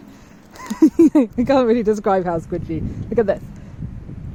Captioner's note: giggles